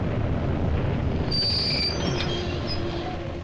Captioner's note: brakes squealing